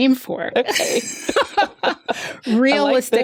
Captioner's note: laughter